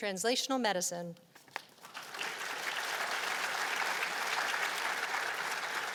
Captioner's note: applause